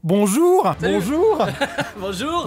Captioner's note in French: rires